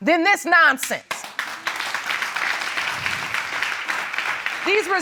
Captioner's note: audience clapping